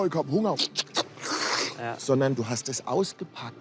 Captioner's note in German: Gierige Laute